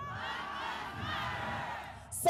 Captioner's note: crowd: Black lives matter